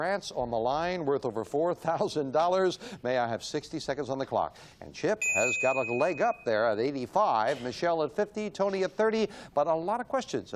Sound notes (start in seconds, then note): 5.2 ding